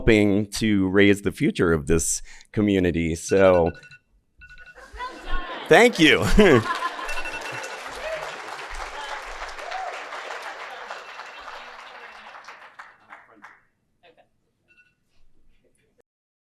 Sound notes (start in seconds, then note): 3.3 alarm rings; 5.5 audience clapping